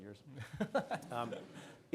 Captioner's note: laughs